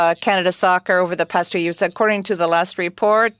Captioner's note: speaking French